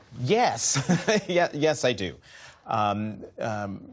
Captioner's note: laughter